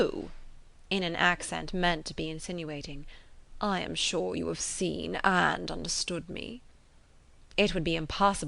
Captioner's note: in an accent meant to be insinuating